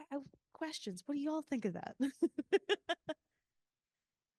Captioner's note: laughing